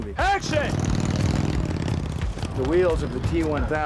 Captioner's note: engine roaring